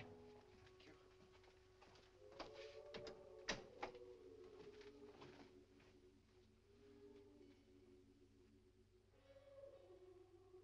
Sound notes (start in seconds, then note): 2.7 door closes